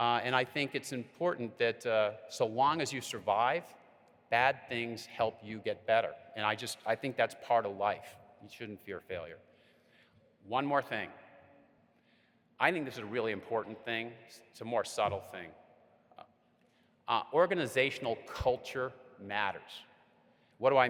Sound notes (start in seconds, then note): none